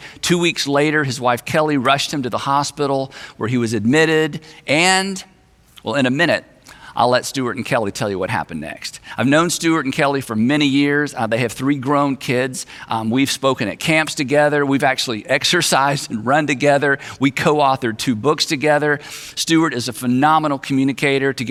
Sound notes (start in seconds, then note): none